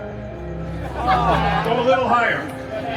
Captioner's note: guests laughing